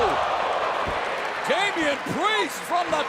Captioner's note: crowd cheering